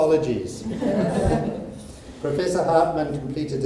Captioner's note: audience laughs